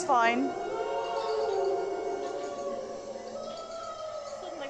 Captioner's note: creepy "woo"ing noises